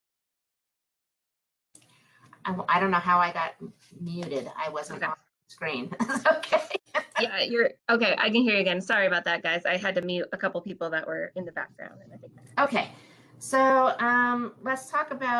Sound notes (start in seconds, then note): 5.9 laughs